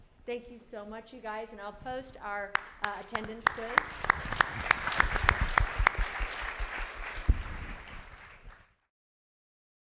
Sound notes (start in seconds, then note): 2.5 applauds; 2.8 audience applauds